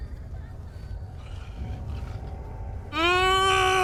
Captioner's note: pained sobs; monster's still grunting; exasperated groan